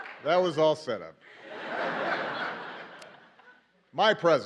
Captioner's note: laughter